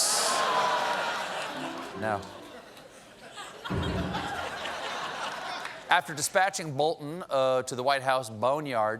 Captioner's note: laughter